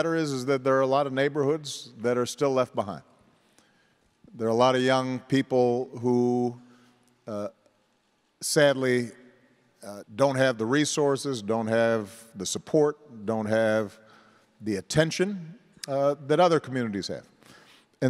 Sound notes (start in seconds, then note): none